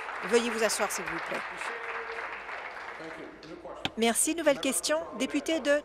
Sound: applause

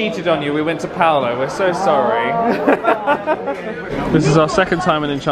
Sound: chuckles

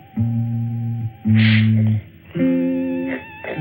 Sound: sniffs

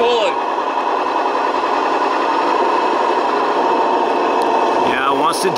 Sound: machine humming

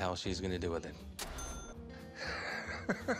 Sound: cha-ching; laughs

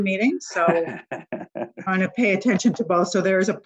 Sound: laughter

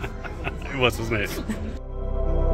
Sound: laughing

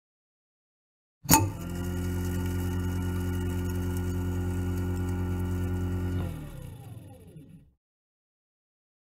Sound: sound of garbage disposal

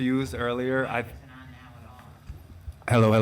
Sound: woman speaks softly

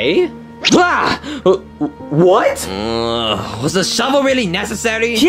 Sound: whines

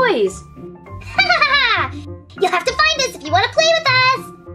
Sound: laughs diabolically

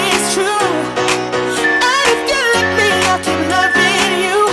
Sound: alarm beeping

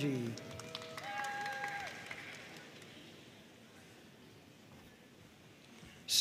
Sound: audience cheering and applauding

